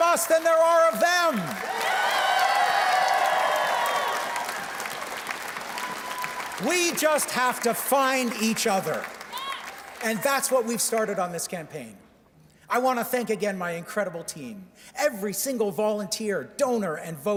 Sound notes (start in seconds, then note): 0.3 cheers and Applause; 4.7 cheers and Applause